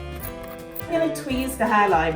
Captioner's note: scratching noises